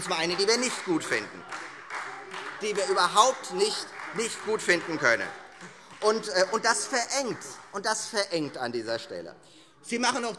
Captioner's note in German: Beifall Freie Demokraten - Widerspruch BÜNDNIS 90/DIE GRÜNEN